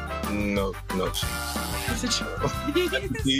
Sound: buzzer sounds; laughing

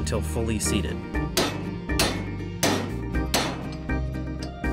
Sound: loud metal bangs

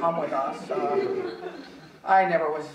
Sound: audience chuckling

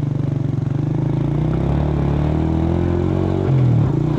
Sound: engine whirring

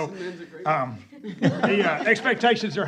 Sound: laughter

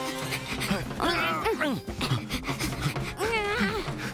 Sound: Sema and Tobor pant and grunt; grunting

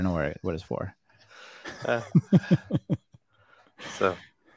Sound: laughing

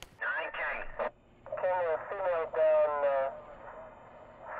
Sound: police radio chatter

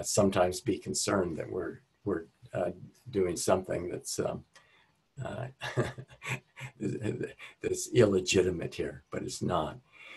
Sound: laughs

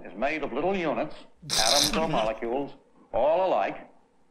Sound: snort of laughter

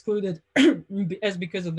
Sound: clears throat

